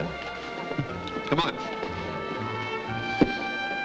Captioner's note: chuckles; bright music playing